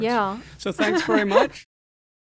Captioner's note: laugh